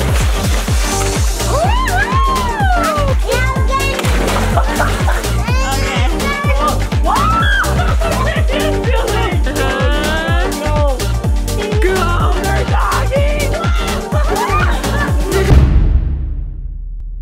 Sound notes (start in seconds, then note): 0.2 water splashing; 4.2 water splashing; 4.5 laughing; 7.0 water splashing; 13.7 everyone laughing